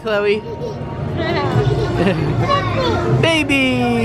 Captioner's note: children laughing